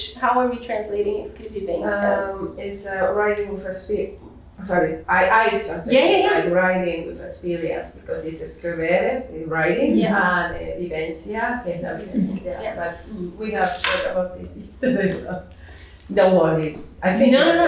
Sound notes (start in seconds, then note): 10.7 speaking portuguese